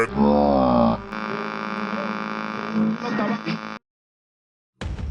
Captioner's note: Static